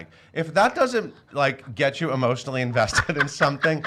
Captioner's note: laughs